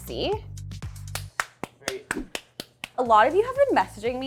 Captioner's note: clapping